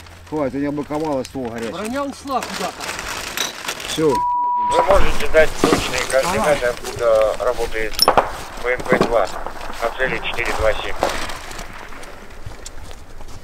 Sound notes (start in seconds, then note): 5.3 radio exchange